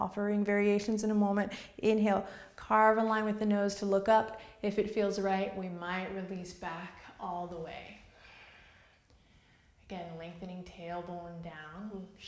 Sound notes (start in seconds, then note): 8.1 exhales